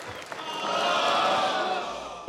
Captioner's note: crowd groans